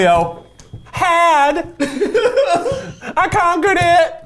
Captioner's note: both laugh